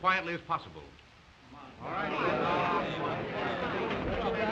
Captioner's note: chatter resumes